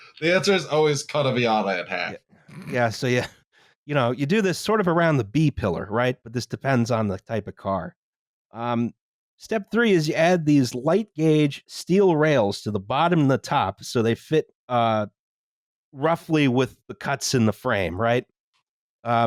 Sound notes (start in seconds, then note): 2.8 snorts